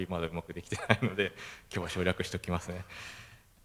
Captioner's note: laugh